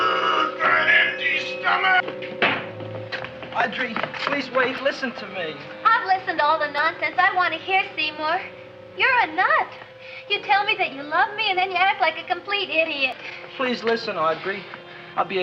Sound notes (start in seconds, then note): 0.0 dramatic music; 2.0 feet thumping